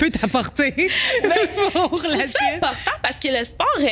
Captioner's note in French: rires